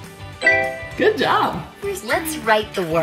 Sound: phone beeping

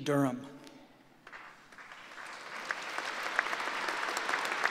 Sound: applauding

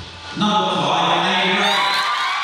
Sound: cheers

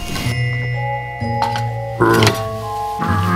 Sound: Bigfoot Grunt

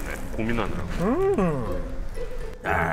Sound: eating

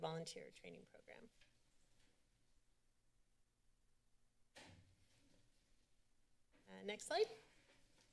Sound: silence; silence

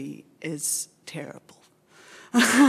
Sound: chuckles

